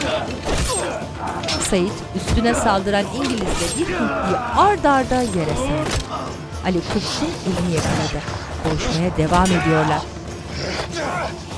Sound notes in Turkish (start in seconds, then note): 9.1 Çığlık sesi